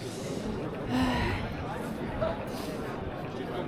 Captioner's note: sighhh